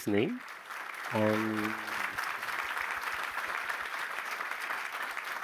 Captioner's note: applause